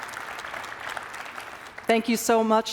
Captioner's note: applause